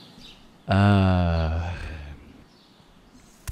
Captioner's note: sigh